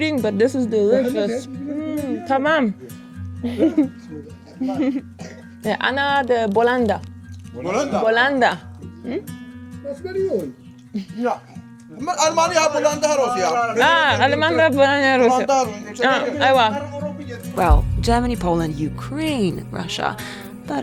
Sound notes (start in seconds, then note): 2.1 speaking foreign language